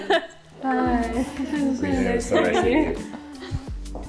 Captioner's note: murmuring